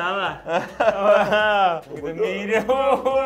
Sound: group laughs

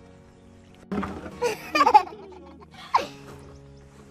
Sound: giggles

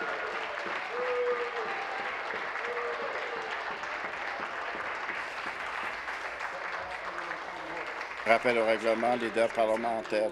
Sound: applause

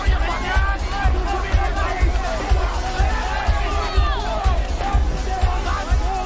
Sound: shouting

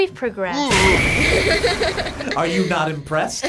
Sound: laughs

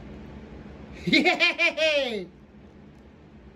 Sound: giggles

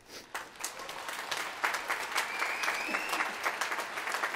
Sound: applause

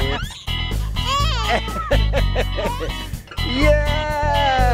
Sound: laughing

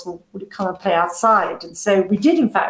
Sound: none

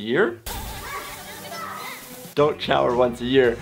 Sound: man shouting

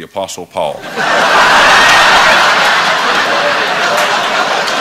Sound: laughter

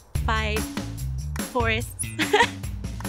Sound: laughs

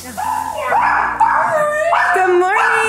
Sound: dog barking

